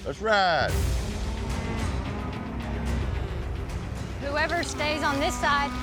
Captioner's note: cows mooing